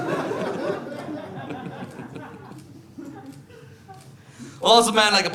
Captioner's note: audience laughing